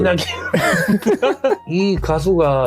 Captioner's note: laugh